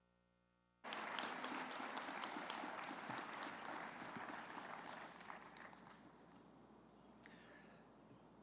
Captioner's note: applause